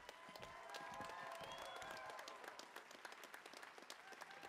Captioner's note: audience cheering